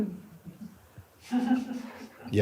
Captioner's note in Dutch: gelach